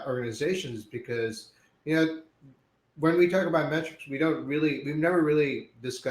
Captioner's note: audio breaks